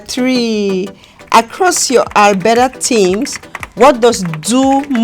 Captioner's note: keys typing